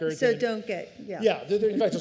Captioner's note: laughter